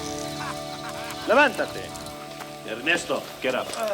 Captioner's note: Bruto speaks Spanish